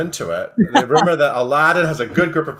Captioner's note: laughs